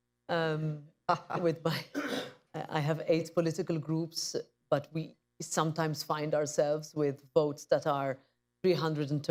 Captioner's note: laughs